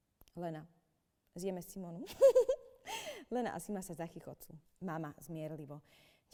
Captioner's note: Lena and Sima giggle